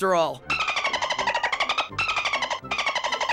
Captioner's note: dolphin calls